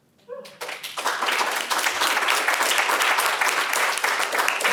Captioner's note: audience applauds